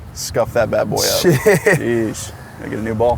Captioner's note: laughs